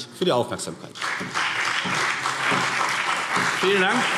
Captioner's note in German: Beifall CDU und BÜNDNIS 90/DIE GRÜNEN